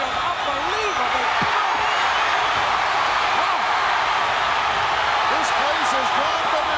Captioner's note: audience cheering